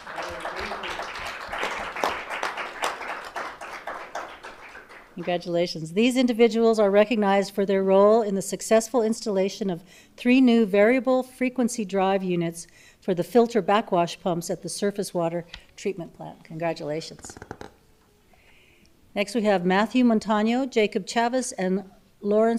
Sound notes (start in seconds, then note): 3.2 applause